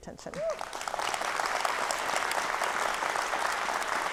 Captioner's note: audience clapping